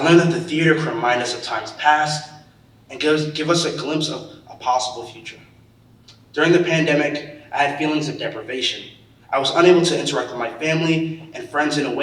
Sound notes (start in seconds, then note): none